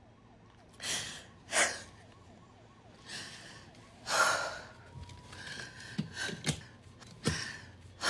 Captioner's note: sirens approaching from a distance; sirens approach from a distance; she takes breaths